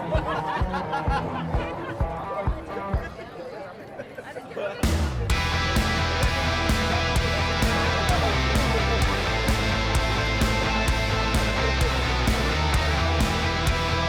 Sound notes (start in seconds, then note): 7.0 background people chattering; 7.0 upbeat rock music